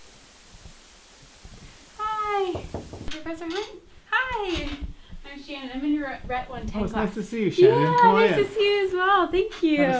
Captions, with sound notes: Hi. [KNOCKS] Professor Hunt? Hi. I'm Shannon. I'm in your RHET 110 class. Oh, it's nice to see you, Shannon. Yeah. Come on in. Nice to see you as well. Thank you.